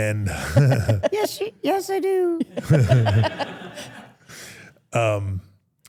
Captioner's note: everyone laughs